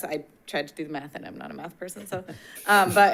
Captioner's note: board Members laughs